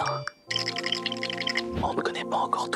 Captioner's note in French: cliquetis